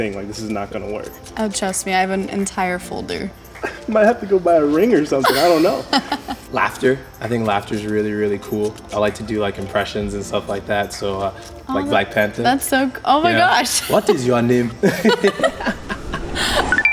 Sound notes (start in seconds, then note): 5.2 laughs; 13.6 laughing; 16.7 chime